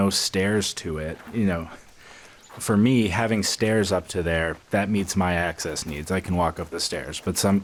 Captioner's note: laughs